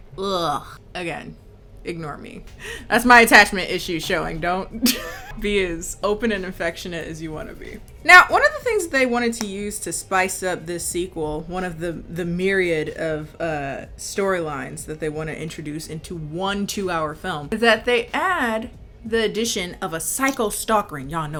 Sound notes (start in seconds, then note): 0.3 groans; 4.8 laughing